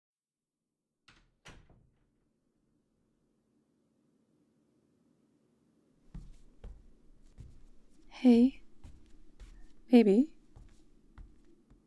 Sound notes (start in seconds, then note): 1.1 door closes; 6.0 footsteps